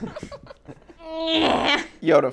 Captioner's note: laughing; groans